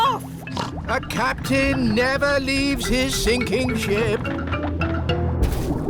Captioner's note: snorts